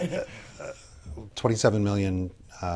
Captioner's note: laughter